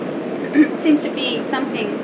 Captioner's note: Boğazını temizliyor